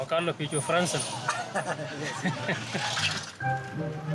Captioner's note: all laugh; playful music